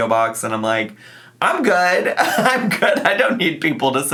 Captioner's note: laughs